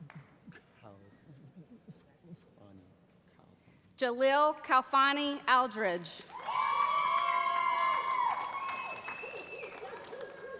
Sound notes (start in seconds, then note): 6.2 loud cheering